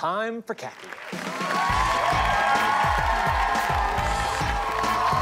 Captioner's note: cheering and applause